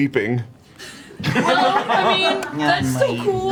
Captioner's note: all laugh